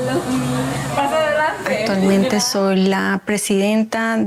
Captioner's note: speaking Spanish